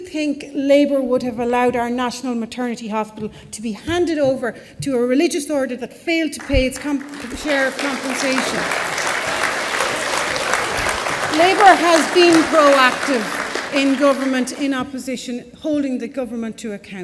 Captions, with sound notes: have allowed our national maternity hospital to be handed over to a religious order that failed to pay its share of compensation? [APPLAUSE] Labour has been proactive in government, in opposition, holding the government to account. We